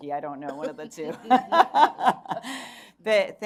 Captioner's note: chuckling